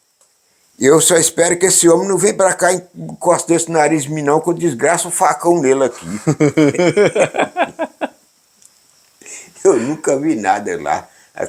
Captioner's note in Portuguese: risos